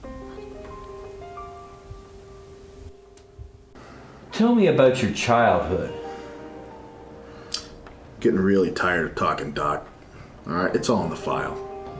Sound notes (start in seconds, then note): 0.1 piano theme; 6.6 sigh